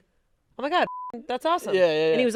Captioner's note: beep